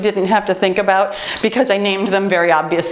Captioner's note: timer beeps